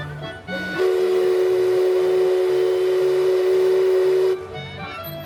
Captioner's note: Mark Twain Riverboat whistle blowing